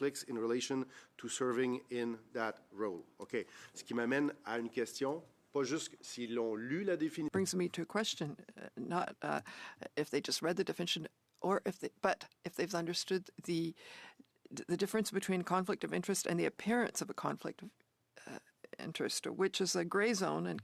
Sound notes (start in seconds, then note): 8.3 speaking French